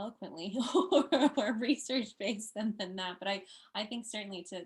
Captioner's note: chuckling